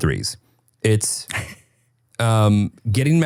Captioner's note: laughing